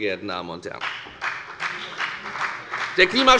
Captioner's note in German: Beifall bei der FDP